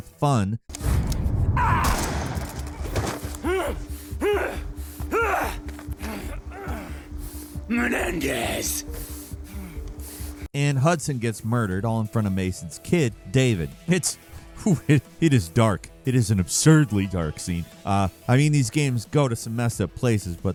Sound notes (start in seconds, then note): 1.5 gun blasting; 1.8 Woods thuds; 4.1 Woods grunting